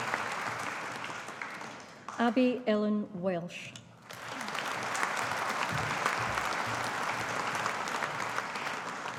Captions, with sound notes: Abbi Ellen Welsh. (AUDIENCE APPLAUDING)